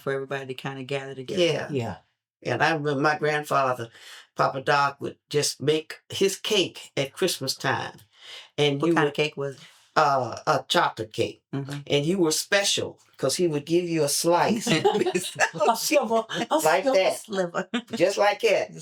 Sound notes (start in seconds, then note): 14.4 laughing